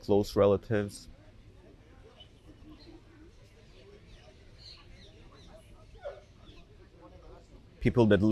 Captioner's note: pauses 6 seconds